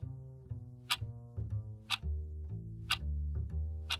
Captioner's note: clock ticking